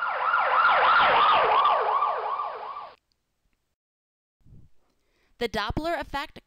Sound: siren wailing

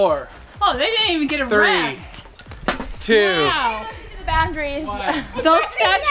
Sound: laughs

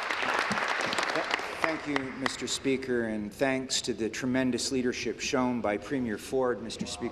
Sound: applause

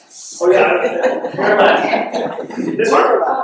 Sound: laughing

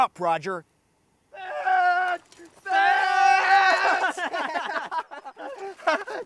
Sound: screaming and laughing

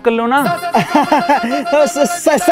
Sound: laughing

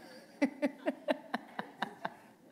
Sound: laughter

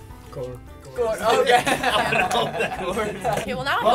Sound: laughter

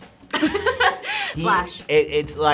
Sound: both laugh

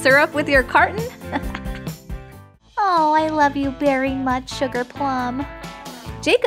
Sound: chuckle

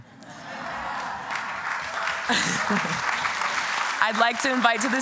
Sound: applause

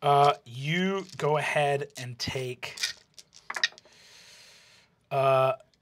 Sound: die clatters; die clatters

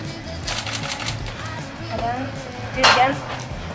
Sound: camera shutter clicks

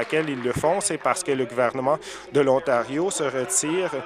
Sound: applause

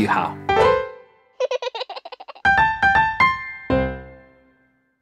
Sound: piano roll; baby giggles

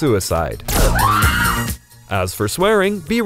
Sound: scream

